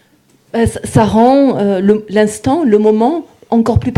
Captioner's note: speaking in French